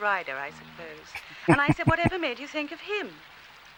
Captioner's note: chuckling